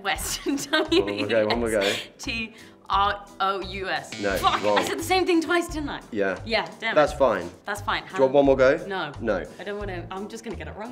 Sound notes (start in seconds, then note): 4.1 buzzer chimes